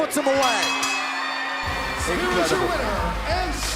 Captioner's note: bell ringing; crowd cheering